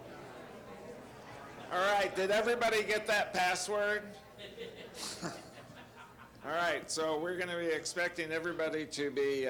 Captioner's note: laughter